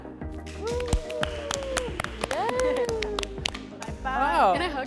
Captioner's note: participants cheer